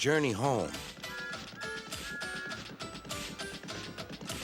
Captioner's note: whistles